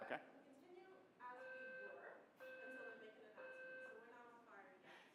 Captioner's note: someone speaks quietly; someone speaks quietly